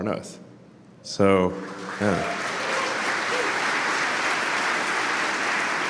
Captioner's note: Applause; 鼓掌